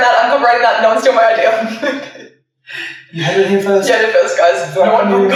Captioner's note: laughing